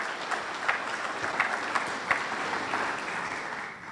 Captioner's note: audience applauds